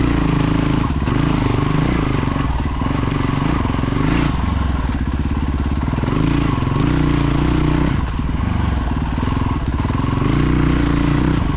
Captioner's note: engine roaring